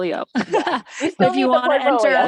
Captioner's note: laughs loudly